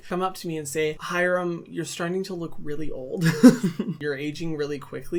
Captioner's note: laughs